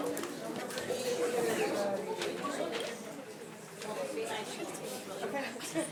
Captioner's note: staff members speaking faintly